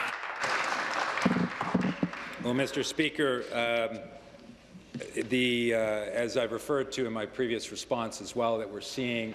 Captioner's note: applause